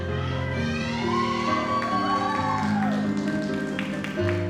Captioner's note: audience applauds